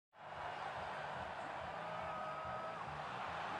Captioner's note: crowd clamoring